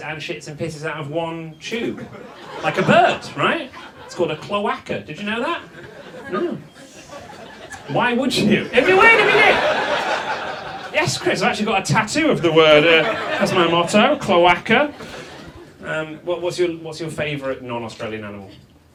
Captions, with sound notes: and shits and pisses out of one tube. Like a bird, right? It's called a cloaca, did you know that? Hm. Why would you? If you wait a minute. (audience laughs) Yes Chris, I've actually got a tattoo of the word. That's my motto, cloaca. What's your favorite non-Australian animal?